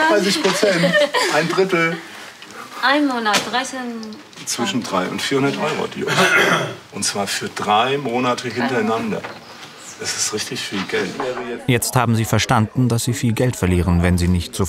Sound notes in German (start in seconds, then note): 6.0 Lautes Räuspern im Hintergrund